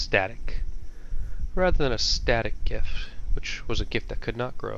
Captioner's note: Static